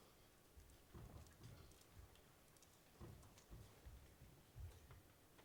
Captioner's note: footsteps echoing